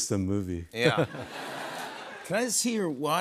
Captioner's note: chuckles